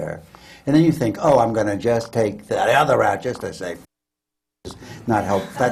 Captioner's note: laughter